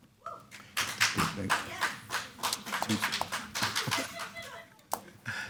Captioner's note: audience applauds